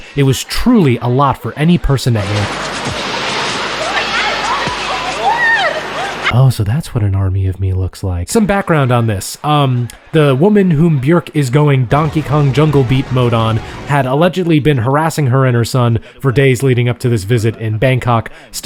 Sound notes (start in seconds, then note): 2.1 journalist screaming